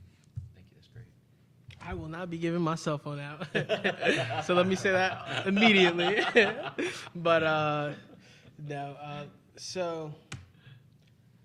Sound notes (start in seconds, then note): 3.4 panelists laughing